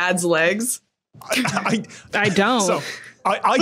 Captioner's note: laughs